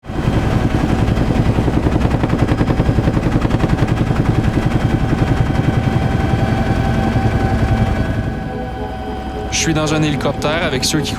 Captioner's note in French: moteur d'hélicoptère